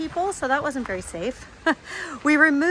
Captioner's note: giggles